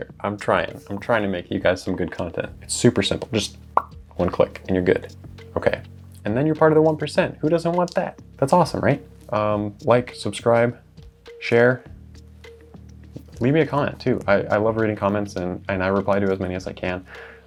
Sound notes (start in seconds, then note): 3.7 pop